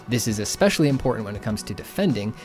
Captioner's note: none